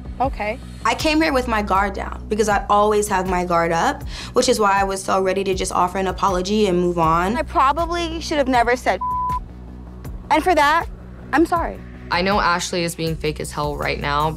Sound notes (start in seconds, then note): 9.0 beep